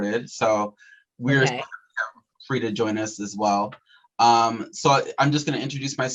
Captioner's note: audio warps